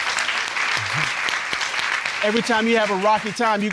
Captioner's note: audience applauding